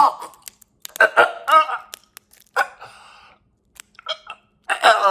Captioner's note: Chuck gurgling